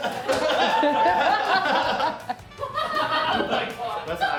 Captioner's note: crew cheers and laughs